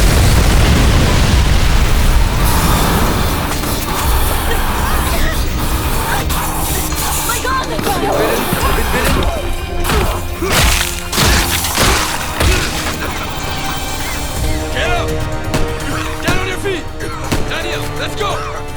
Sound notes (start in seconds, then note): 0.0 explosion; 8.0 snarling